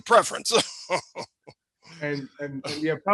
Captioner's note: laughs